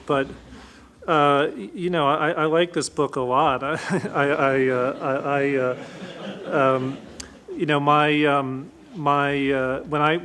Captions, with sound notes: but I like this book a lot. (chuckles) (audience laughs)